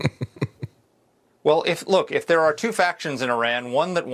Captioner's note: laughs